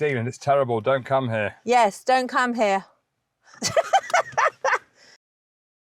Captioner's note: laughter